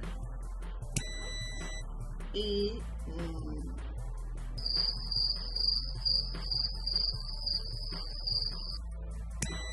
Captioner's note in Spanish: sonido: piiiiii; sonido: grillos; sonido: piiiiii